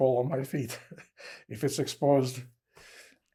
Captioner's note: laughing